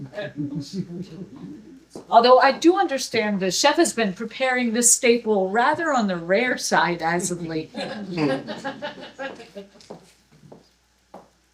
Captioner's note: chuckles; laughter